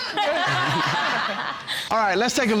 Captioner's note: all laughing